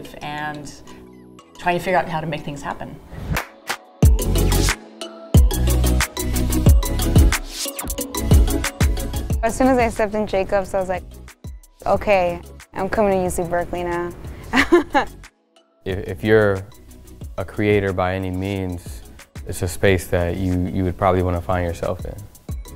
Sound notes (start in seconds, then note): 3.4 upbeat music; 14.5 laughs